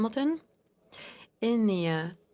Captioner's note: speaking French